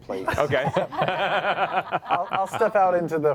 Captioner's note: laughter